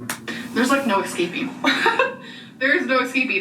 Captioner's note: laughs; laughs